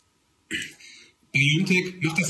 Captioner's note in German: Er ächzt